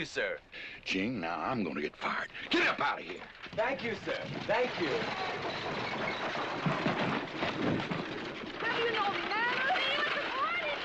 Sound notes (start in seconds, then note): none